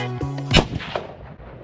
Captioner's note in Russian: выстрел